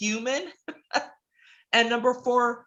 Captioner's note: laughs